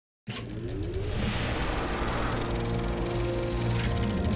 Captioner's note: film ticking